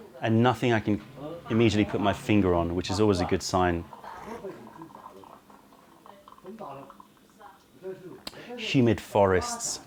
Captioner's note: sips tea